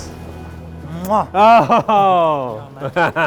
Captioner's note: kissing sound; laughter